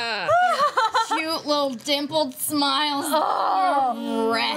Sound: groans

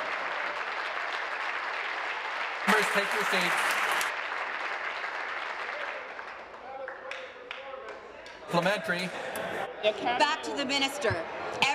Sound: applause

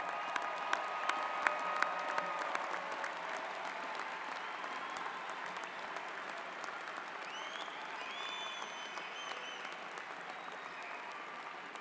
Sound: applause

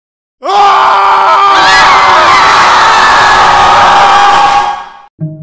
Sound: screaming

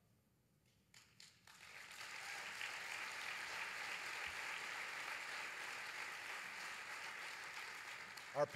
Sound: applause

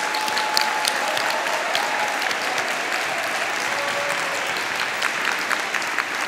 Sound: audience applauding; audience cheering

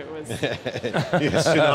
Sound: laugh

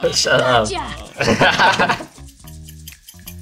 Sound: laughs in carry

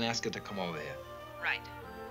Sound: on phone

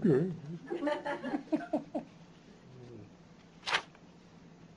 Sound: laughter

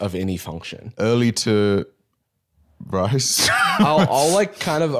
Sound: laughs

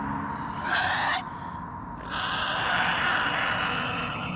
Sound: Eddy shrieking

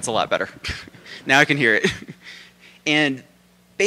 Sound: laughs

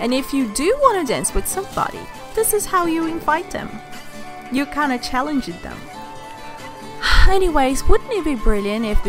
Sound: sigh

